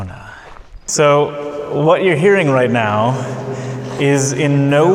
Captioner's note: echoing